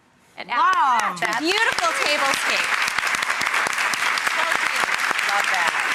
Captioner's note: applause